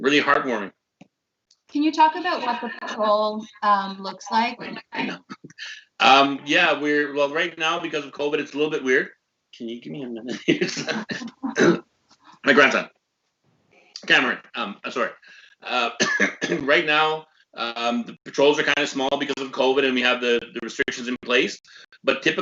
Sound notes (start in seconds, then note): 12.7 laughs